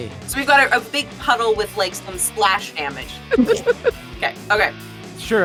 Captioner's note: AMANDA laughs